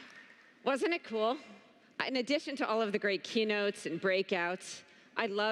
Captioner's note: applause